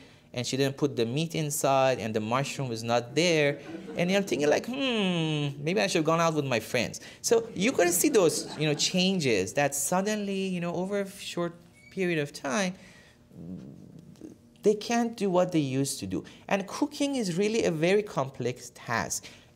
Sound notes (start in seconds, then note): 3.7 laughter